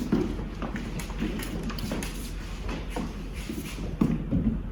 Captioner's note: footsteps